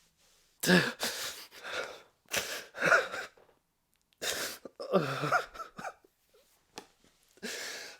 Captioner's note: more uncontrollable tears of pain